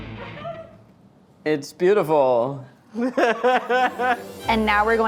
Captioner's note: laughs